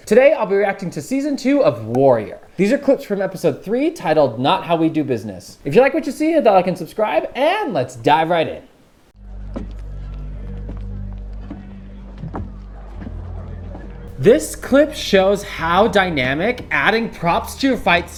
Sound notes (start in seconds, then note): 9.1 soft tense music; 9.4 background people chattering